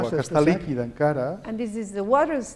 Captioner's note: non-english speech